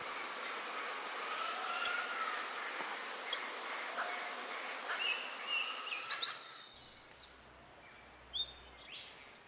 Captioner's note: birds chirps